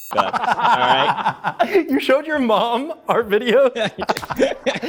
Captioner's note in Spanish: Risas; Risas